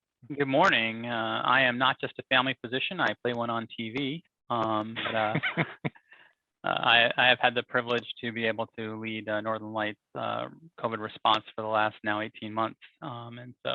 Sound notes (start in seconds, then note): 4.6 laughing